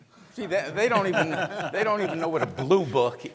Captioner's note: laughs